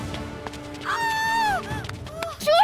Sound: screaming

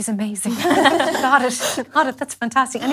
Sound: laughes

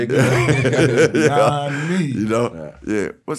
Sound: laughing

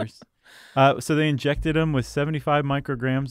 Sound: laughs

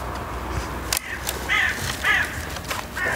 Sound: crows hooting

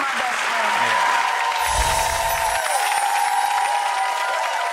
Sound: audience applause

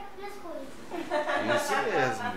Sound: laughs

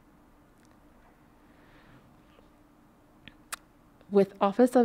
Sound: silence

